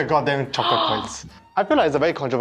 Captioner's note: gasps